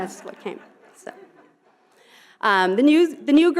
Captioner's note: audience laughing